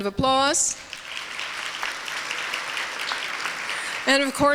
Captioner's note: applause